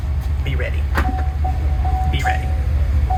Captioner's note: car dings